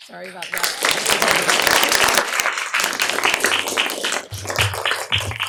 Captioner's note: applause